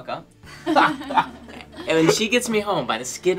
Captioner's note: laughing